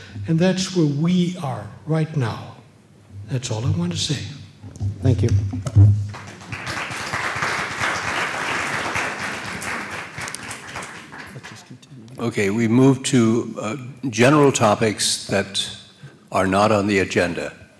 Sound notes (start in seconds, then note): 8.7 applause